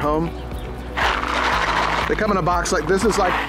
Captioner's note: rattling